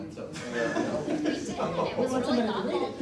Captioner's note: laughter